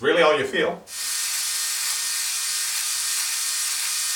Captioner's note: buzzing